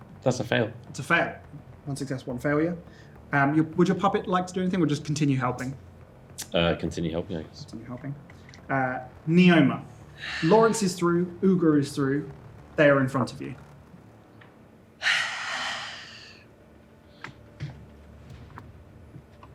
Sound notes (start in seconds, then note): 15.0 sighs deeply